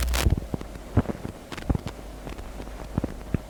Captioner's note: audio crackling